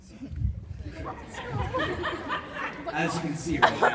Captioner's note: laughs